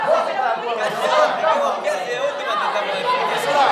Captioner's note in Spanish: Bullicio